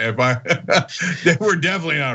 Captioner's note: laugh